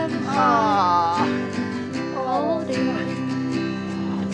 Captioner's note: panting